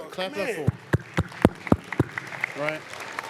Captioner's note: applause